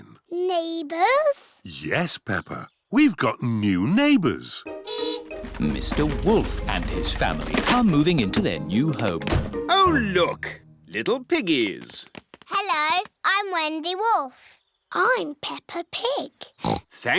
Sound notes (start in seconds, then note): 4.3 horn beeps; 16.6 oinks